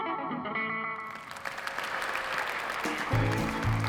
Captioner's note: audience applauding; lively country guitar music